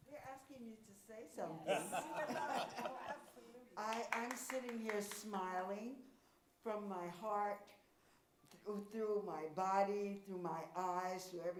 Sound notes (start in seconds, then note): 1.6 audience laughs; 1.6 chuckles